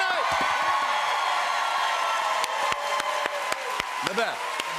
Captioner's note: cheers and applause